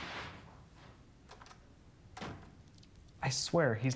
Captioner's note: door opens and closes